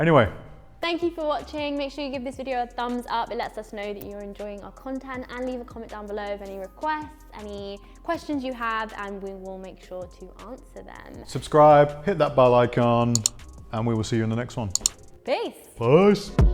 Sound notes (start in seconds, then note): 14.3 mouse clicks